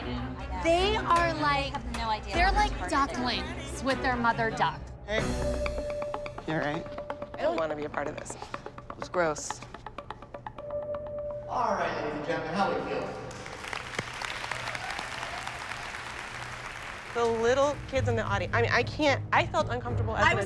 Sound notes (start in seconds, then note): 13.0 cheers and applause